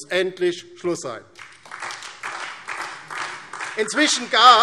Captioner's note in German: Beifall